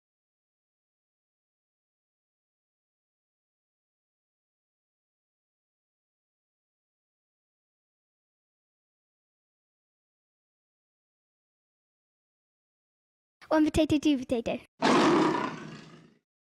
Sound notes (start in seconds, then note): 14.8 tiger roaring